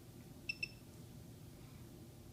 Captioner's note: device beeps